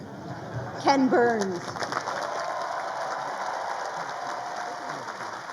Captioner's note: crowd applauding